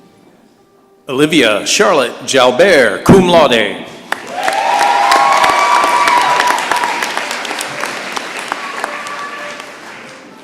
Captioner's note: applause and cheering